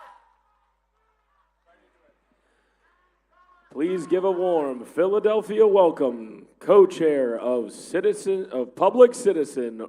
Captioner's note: applause